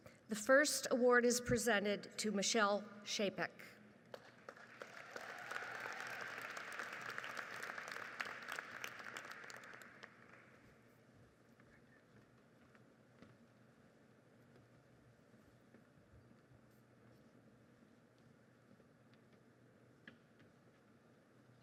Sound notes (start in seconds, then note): 4.2 audience applauds